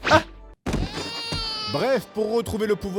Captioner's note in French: pleurs du bébé